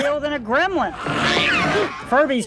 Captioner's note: gremlin screeches